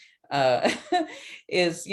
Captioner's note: chuckles